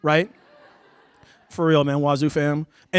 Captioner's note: laughter